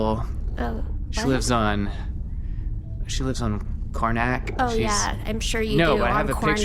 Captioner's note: sarcastically